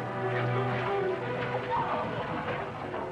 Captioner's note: screaming